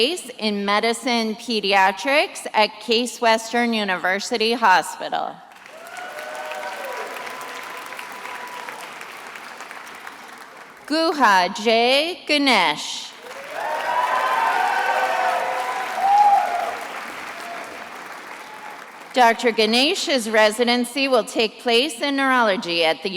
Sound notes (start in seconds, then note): 5.5 attendees applauding; 13.1 attendees applauding and cheering